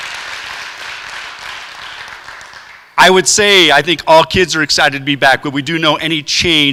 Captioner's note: applause